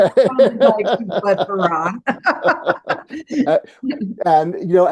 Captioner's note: laughing